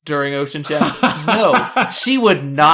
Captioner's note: laughs